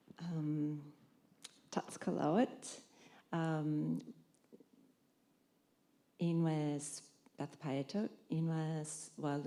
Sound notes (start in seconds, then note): 1.7 Nez Perce language